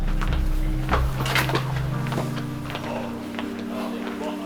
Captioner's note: feet clacks